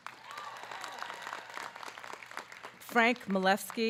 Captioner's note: audience clapping